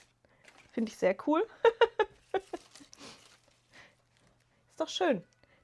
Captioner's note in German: gelächter